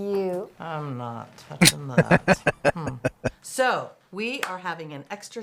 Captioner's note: laughing